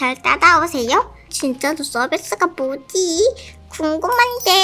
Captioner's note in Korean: 소곤소곤